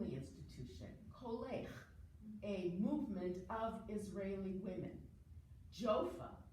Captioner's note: foreign language